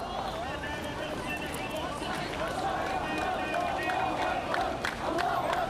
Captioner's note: chanting